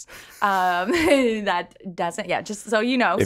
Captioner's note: laughs